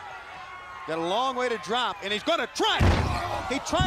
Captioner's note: crowd chatter